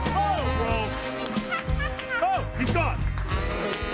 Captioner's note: laughs